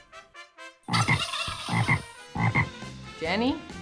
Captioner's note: both make their buzzing sounds